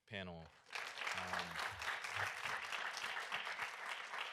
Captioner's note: audience applauding